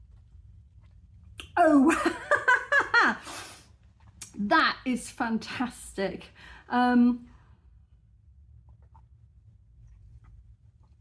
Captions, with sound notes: Oh wow [laughing] that is fantastic.